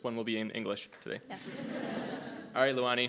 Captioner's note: audience laughing